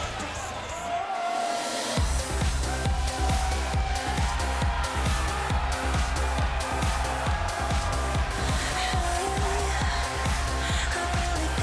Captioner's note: crowd cheering